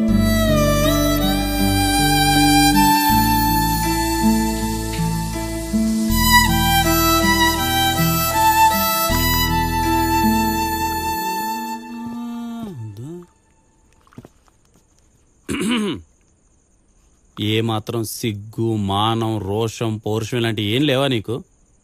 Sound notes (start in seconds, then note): 15.4 clears throat